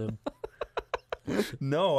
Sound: laughs

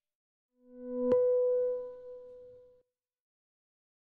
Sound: ringing tone

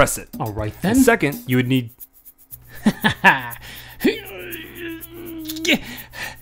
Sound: laughing and grunting noises

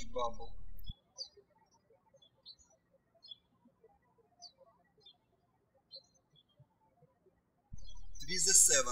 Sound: birds chirping

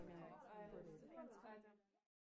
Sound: chatter from another room

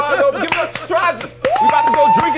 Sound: laughter; whooping

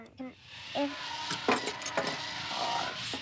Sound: buzzing

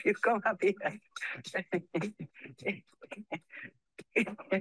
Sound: laughs

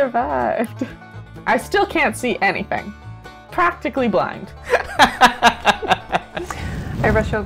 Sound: laughter

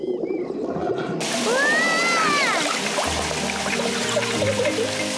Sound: yelling; both giggle

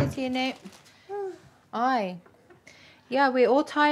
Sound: sighs

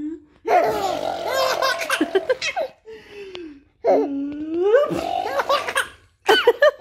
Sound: chuckles; laughs

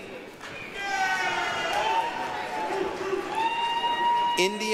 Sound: applause, cheering

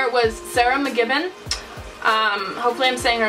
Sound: smacks lips

